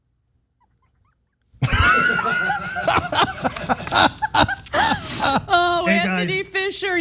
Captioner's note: laugh